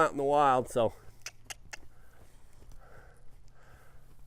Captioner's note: clicks tongue